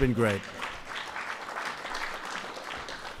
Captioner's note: applause